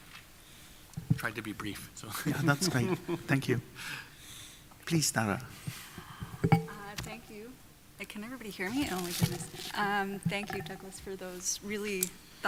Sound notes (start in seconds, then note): 2.2 laughter